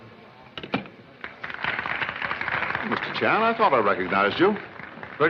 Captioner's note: applause